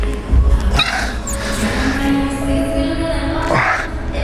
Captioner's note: grunting